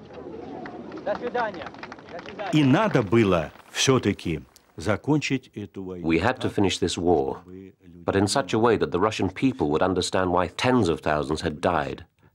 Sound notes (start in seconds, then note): 1.6 speaking Russian